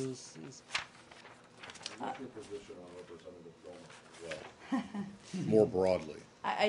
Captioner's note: laughter